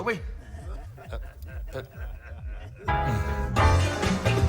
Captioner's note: laughter